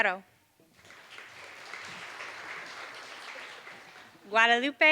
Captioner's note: applause